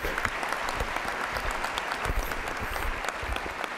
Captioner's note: applause